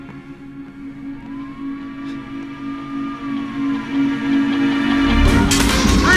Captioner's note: distant sirens